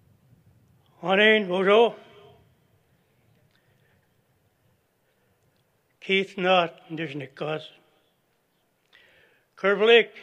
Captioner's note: non-english speech